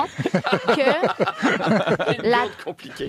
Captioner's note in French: rires